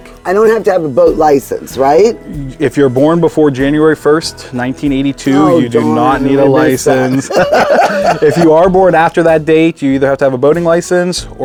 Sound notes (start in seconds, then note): 6.5 both laughing